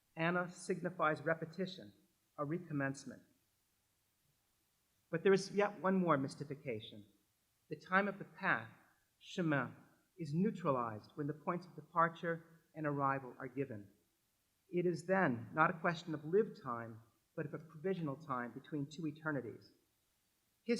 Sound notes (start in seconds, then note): 9.4 french